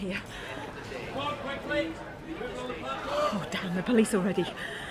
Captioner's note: heavy breathing